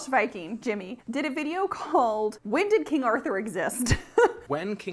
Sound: chuckles

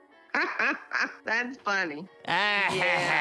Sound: laughing

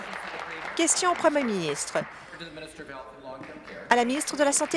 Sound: applause

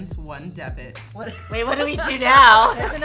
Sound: group laughs

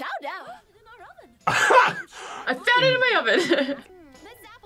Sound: chuckles; laughs

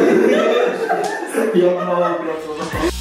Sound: laugh; laughs

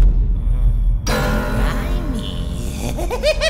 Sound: evil laughter

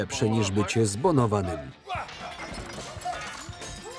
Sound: shouting

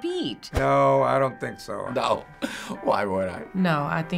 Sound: chuckles

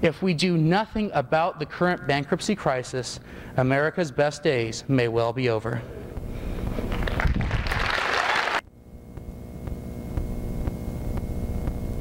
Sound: applause

